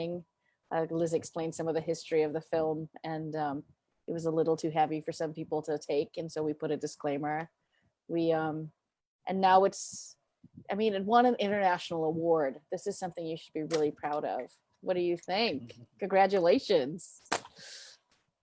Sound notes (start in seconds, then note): 14.7 group snapping